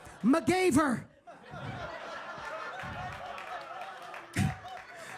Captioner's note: audience laughing